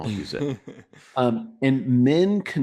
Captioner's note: laughs